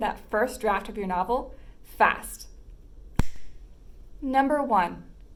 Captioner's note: snap